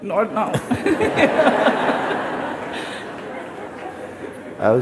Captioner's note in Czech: smích